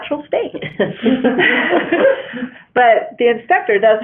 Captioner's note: laughter